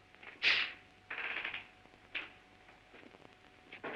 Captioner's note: door creaks